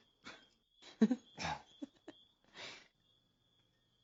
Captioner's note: laughing